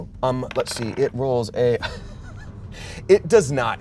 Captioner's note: laughs